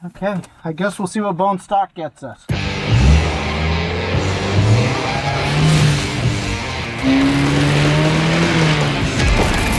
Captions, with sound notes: - Okay, I guess we'll see what bone stock gets us. (engine revs)